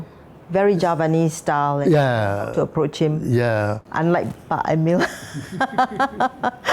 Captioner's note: laugh